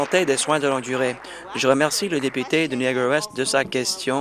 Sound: applause

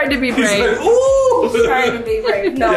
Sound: laughs

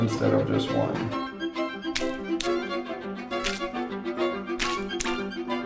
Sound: violin music; tablets dropping

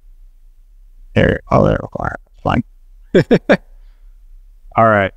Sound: chuckles

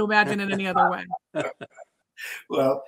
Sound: laughing

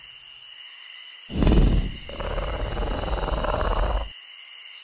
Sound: dino grunts

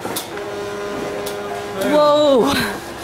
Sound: printing sound

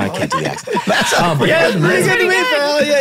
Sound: all laughing

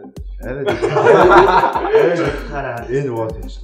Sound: laughter

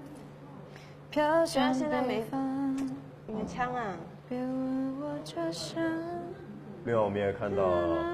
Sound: humming

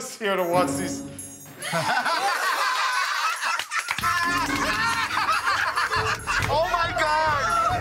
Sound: laughter

